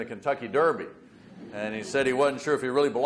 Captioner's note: audience laughs